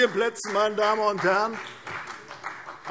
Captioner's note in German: Vereinzelter Beifall CDU und BÜNDNIS 90/DIE GRÜNEN